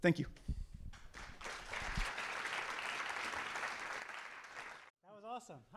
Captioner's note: audience applauding